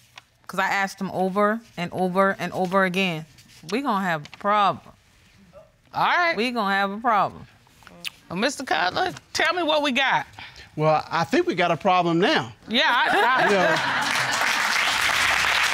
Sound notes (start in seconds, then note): 13.2 stammers